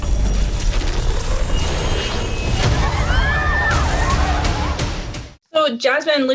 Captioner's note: people screaming; angry bass music